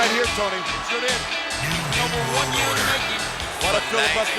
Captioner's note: speaks faintly